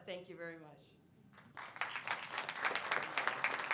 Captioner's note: applause